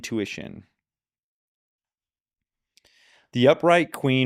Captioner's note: silence